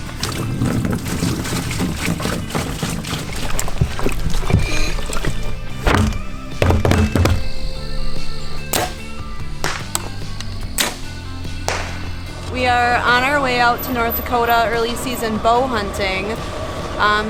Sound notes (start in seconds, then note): 0.0 liquid pouring; 6.5 thumping on lid; 8.9 arrow flying